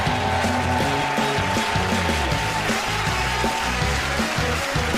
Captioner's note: cheers and applause